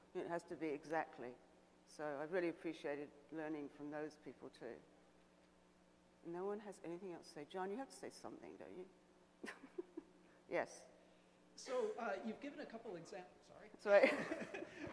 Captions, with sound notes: it has to be exactly so I really appreciated learning from those people too. No one has anything else to say. John, you have to say something don't you? (laughs) Yes. - [Voiceover] So, you've given it a couple of exa, sorry. - Sorry?